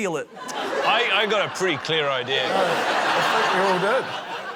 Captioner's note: laughter